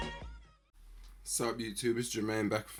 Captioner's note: voiceover